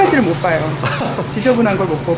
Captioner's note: laughs